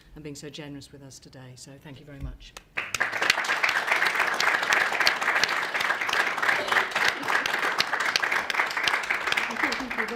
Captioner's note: clapping